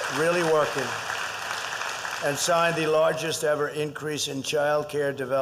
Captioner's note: applause